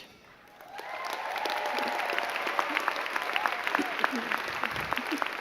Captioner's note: crowd cheering and clapping